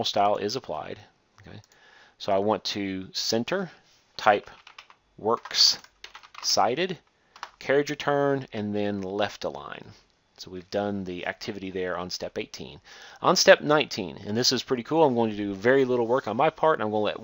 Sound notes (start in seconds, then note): 0.0 click; 1.6 click; 5.4 typing